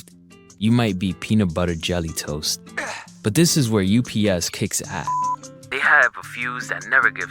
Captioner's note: beep